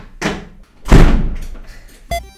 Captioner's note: slams the door